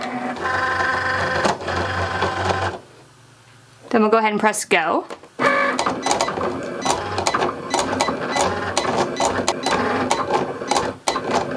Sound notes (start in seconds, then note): 0.0 Cricut machine whirring; 5.3 Cricut machine whirring; 5.4 Cricut machine beeping